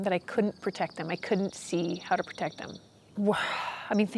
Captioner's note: sighing